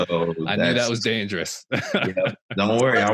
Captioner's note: laughing loudly; chuckles